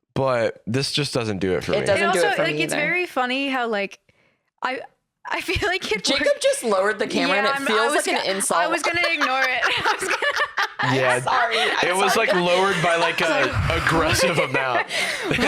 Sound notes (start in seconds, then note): 10.5 laughs